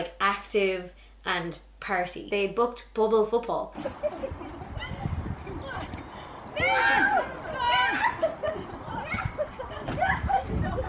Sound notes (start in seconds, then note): 6.5 laughter and screaming